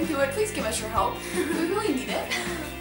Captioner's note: chuckles